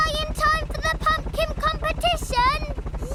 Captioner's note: none